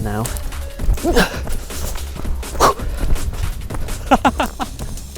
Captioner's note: puffing; laughs